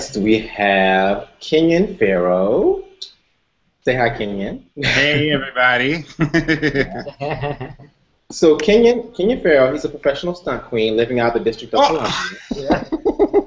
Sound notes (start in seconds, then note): 4.8 laughs; 12.0 laughter